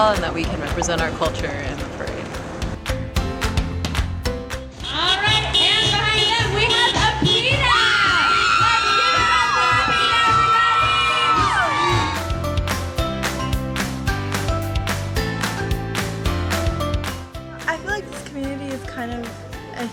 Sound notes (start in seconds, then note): 3.2 upbeat music; 7.6 excitedly screaming; 11.8 upbeat music